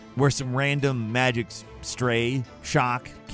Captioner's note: none